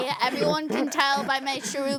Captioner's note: laughing